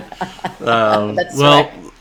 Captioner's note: chuckling